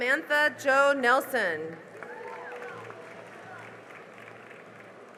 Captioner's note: cheering and applause